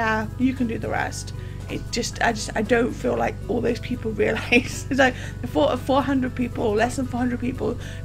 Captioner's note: laughs